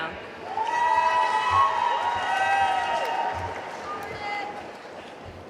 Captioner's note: audience cheering and applauding